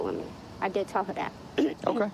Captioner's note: clearing throat